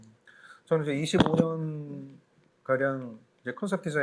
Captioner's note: speaking korean